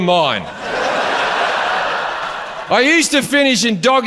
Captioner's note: audience laughs